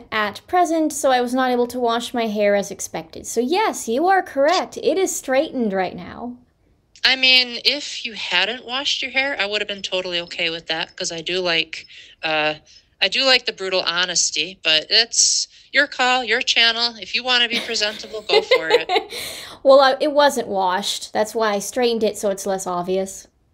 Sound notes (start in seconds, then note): 17.5 laughter